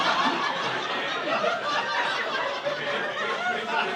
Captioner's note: audience laughing